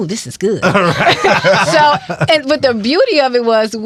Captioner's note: all laughing